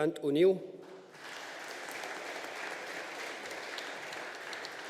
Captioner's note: audience applauding